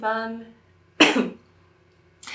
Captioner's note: cough